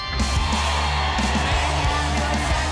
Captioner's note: crowd cheering